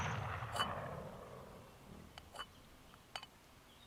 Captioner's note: gunshots fired; clanking sounds